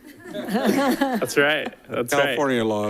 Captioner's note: all laughing